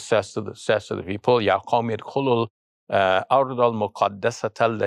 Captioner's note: foreign language